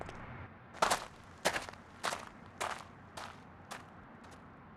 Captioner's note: gravel crunching